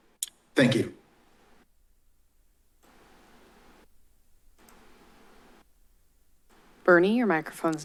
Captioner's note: silence